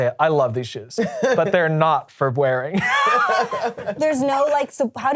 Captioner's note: laughs